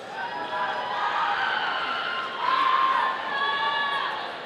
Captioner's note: audience cheering